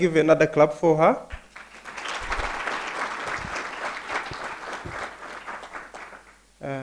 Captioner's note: applause